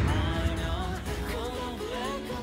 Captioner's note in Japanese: none